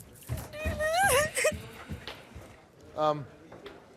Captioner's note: crying